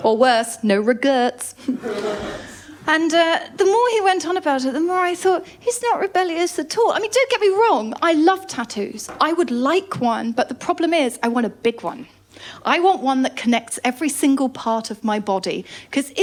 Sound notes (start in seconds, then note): 1.6 laughter